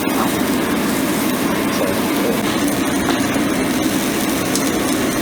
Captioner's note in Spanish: Sonidos chisporroteantes